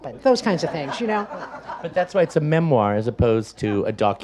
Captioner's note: audience laughs